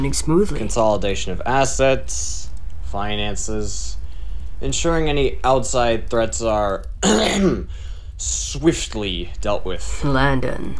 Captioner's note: ahem